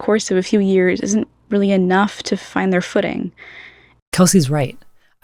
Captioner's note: inhale